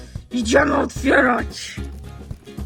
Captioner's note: growls